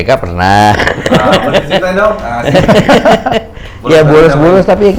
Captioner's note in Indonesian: tertawa